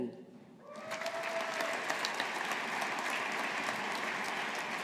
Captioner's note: audience applauding